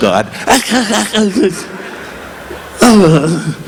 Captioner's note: Don exclaiming